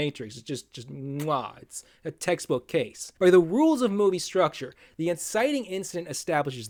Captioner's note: mwah!